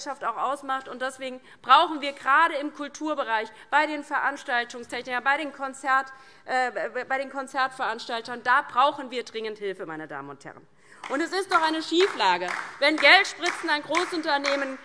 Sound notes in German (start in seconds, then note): 11.0 Beifall DIE LINKE